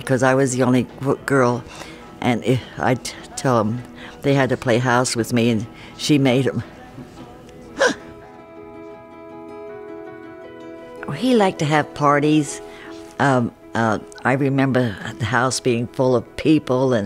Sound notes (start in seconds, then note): 7.7 laughs; 8.5 moving piano music